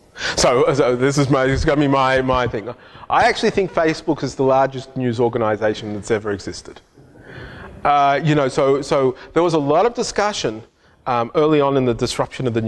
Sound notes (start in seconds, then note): 7.1 hushed chatter